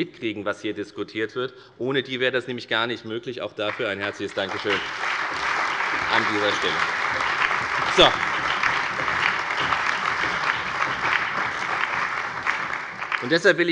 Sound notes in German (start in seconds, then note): 3.6 Allgemeiner Beifall